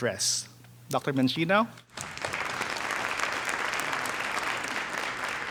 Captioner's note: audience applauding